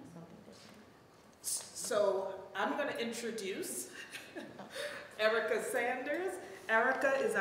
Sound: chuckles

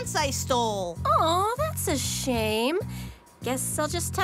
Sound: sarcastic

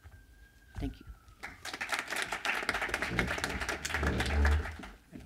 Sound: applause

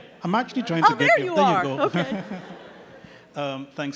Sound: chuckles

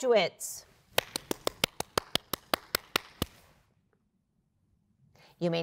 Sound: applause

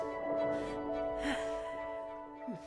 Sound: sigh

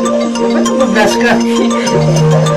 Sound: laughter; giggles

